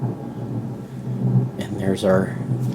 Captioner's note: thunder